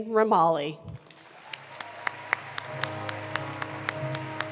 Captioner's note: applause; regal music